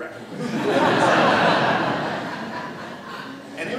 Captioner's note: audience laughter